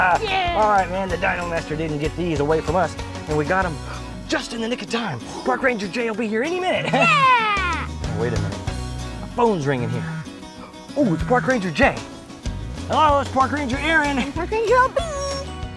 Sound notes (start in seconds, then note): 0.0 laughing; 3.8 gasps; 10.5 gasps